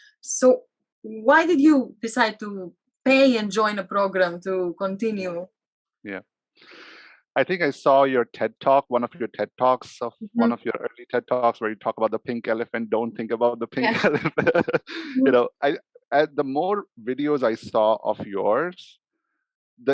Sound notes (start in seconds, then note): 14.7 laughs